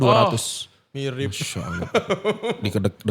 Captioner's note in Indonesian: tertawa